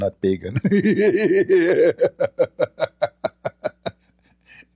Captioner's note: Ketawa